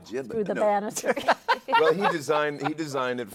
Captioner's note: laughter continues